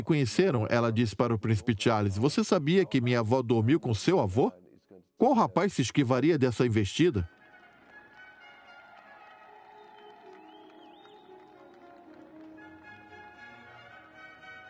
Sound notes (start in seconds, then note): 7.2 crowd cheering; 11.2 regal instrumental music